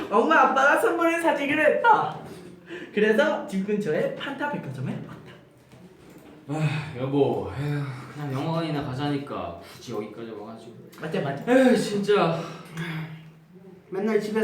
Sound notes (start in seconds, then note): 12.4 sigh